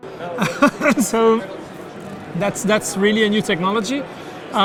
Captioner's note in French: rire